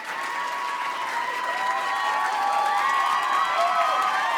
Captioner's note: applause and cheering continue